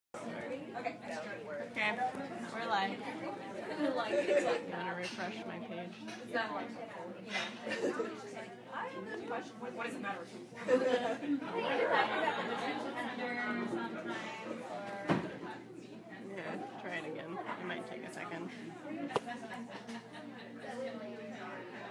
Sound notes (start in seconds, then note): 0.2 people chatting; 8.7 people talking